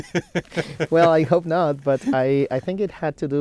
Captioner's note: both laughing